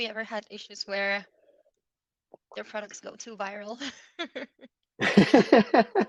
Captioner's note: chuckles